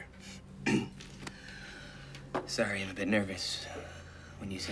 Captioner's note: clears throat